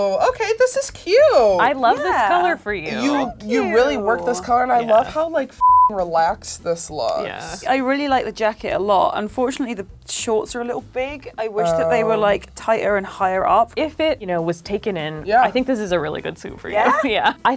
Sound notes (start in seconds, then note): 5.6 beep